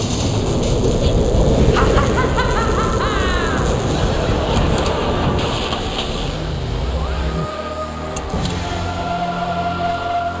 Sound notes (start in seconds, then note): 1.6 laughing; 7.0 spooky music playing